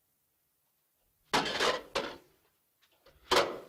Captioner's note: lantern clangs on floor